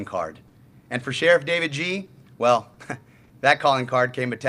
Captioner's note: chuckles